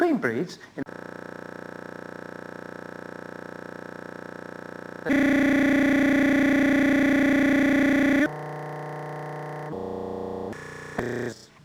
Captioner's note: audio interference